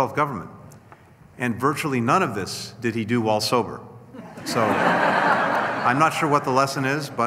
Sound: laughter

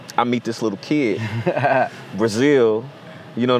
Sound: laughs

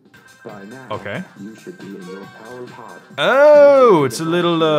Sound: robot Voice; murmurs

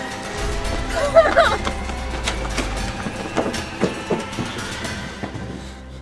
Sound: dramatic music; whimpering

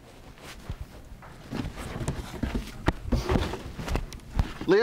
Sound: box rustling

